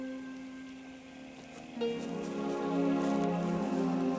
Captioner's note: gentle snoring